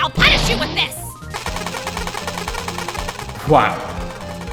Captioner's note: ray gun “firing”